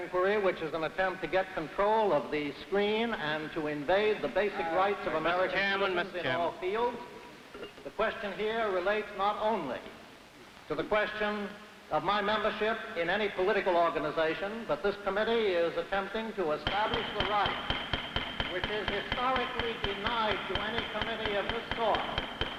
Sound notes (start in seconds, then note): 16.5 gavel banging